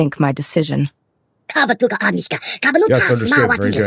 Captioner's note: speaking in foreign language